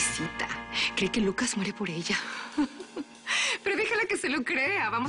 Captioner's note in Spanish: Risas